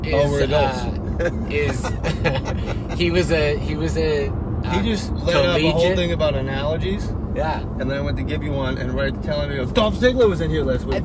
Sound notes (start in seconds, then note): 1.0 laughing